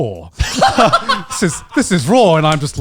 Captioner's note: laughing